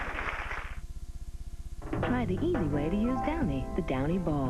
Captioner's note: applause